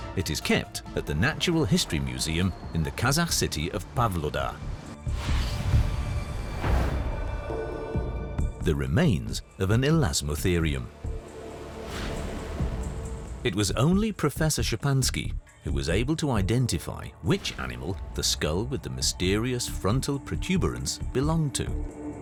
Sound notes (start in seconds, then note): none